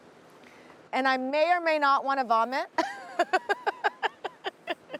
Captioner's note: laughs